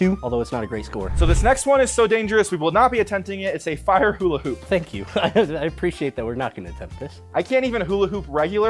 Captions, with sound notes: although it's not a great score. - So this next one is so dangerous, we will not be attempting it. It's a fire hula hoop. - Thank you (laughs). I appreciate that we're not gonna attempt this. - I can't even hula hoop regular